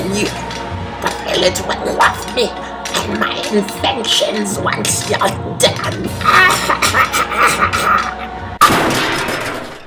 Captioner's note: evil laughter